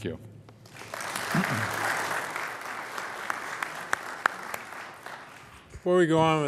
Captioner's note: applause